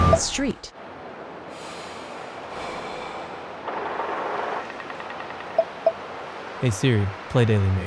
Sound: sigh of relief

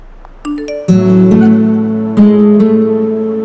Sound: phone ringing

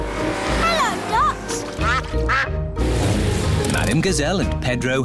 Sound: quacking

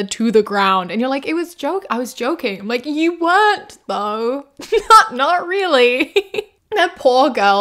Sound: giggles

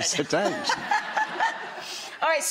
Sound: laughter

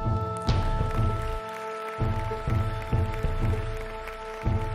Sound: bright ambient music; audience applauding

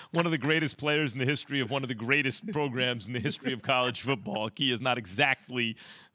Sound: laughter

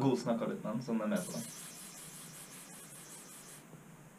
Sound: pss pss pss pss

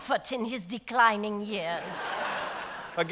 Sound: audience laughs

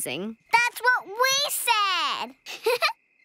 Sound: Dot chuckles

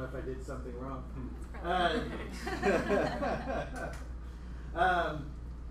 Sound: laughter

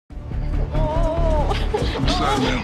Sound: woman moaning

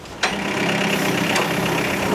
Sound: engine noise

